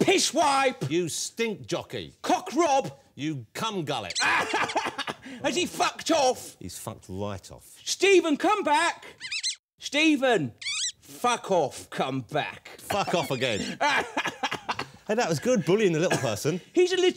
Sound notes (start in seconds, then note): 9.2 squeaking